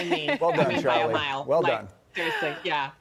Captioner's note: laughter